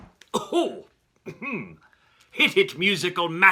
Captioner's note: coughing